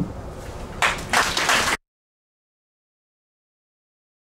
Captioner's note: audience claps